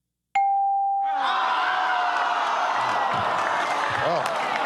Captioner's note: all groan